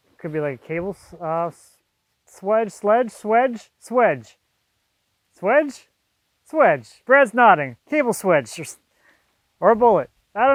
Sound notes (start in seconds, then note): none